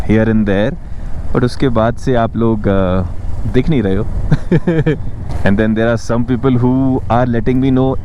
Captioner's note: chuckles